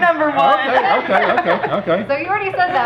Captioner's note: laughing